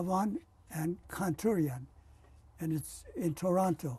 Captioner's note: non-english